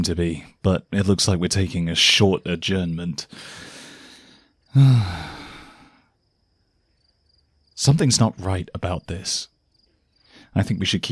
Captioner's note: sighs deeply